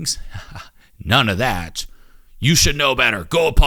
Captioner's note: chuckles